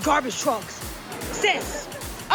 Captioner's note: crowd laughing